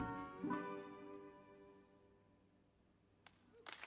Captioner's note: bluesy guitar music ends; audience applauds